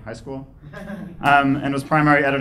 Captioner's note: laughing